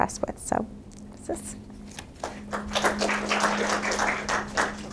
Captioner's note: audience claps